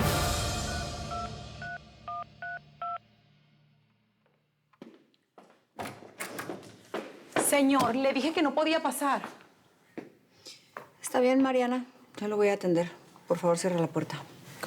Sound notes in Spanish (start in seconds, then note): 3.0 sonido al marcar; 5.8 sonido al abrir la puerta